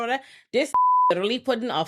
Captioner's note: beep